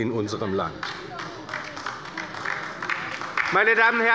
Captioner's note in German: Beifall bei der LINKEN